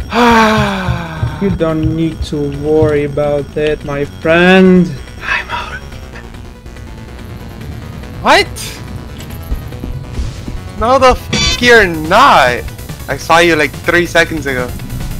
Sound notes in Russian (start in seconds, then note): 0.1 Слышимое разочарование; 5.2 шёпотом